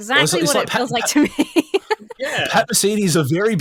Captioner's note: laughs